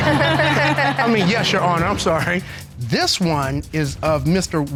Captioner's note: all laughing